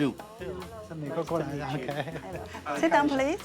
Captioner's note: speaking Chinese dialect